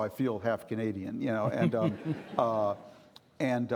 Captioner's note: chuckling